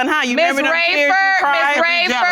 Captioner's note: audience exclaiming